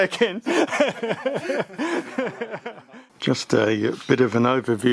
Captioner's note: laughing in jest